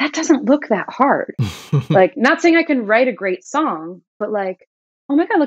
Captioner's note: laughter